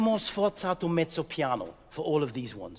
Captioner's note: speaking in French